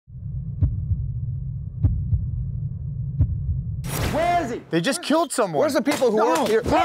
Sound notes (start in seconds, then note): 0.1 heartbeat